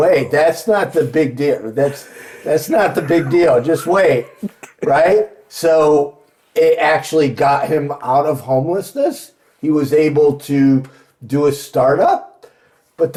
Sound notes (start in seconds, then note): 5.1 laughing